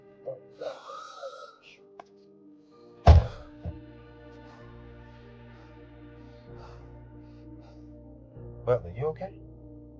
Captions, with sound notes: (frustratedly mumbling) (panting) - Brother you okay?